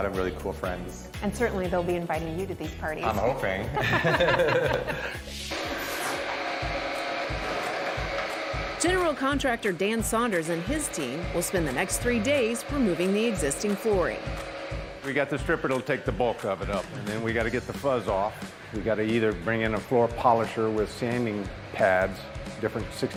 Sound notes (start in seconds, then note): 3.7 laughter; 6.2 engines whirring